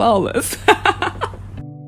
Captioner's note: laughs